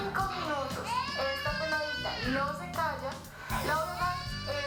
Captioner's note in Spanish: llanto de bebé